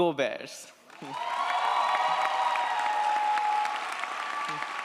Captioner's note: audience applauds & cheers